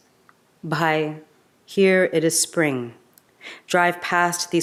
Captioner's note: speaks in a foreign language